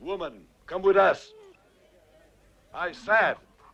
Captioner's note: Beast whines